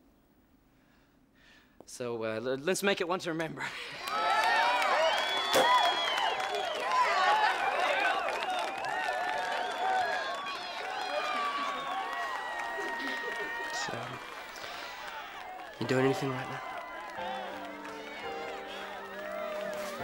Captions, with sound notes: So, let's make it one to remember. (cheering and applause) (cork popping) - So, you doing anything right now? (sweet music)